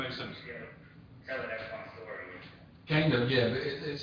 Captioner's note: audio distorts